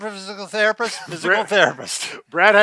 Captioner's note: both laughing